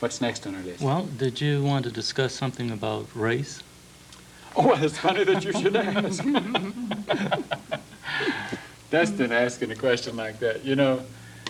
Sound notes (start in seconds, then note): 9.5 laughs